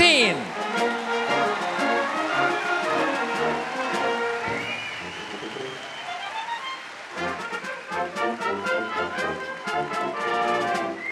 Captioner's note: applause, cheering